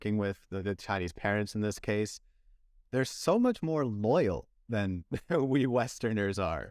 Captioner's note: laughter